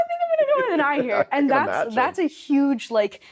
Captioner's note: chuckling